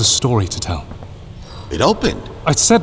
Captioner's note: stone sliding sound